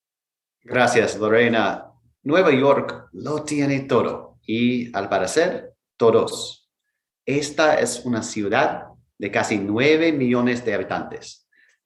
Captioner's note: speaking in Foreign Language